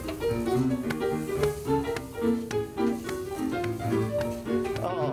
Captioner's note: ragtime music; clapping to rhythm